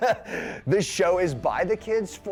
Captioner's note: laughing